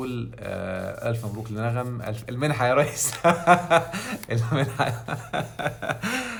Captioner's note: laughing!